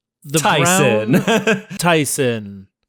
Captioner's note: laughs